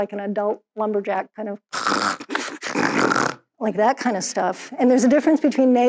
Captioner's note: imitates snoring